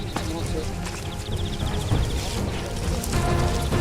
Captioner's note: shuffling